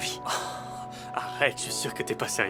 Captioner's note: laughing